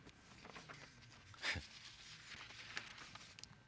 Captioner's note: chuckles